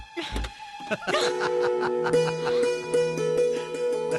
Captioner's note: laughing